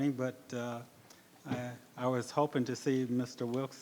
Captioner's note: none